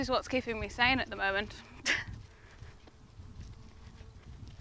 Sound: laughs

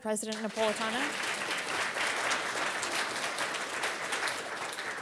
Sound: audience applauds

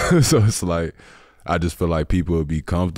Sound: chuckling

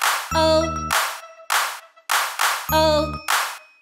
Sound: loud claps; loud claps

